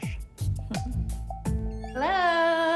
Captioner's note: laughs